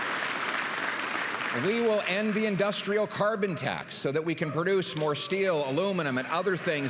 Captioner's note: applause